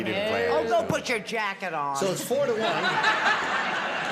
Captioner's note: laughter